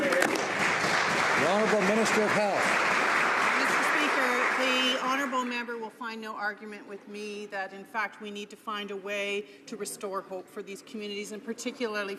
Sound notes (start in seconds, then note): 2.7 some Applause